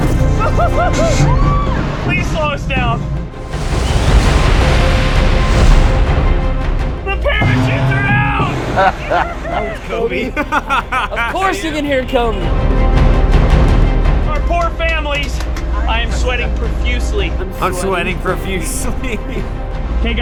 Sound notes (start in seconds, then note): 0.3 laughter, cheering; 8.7 laughter; 10.4 laughs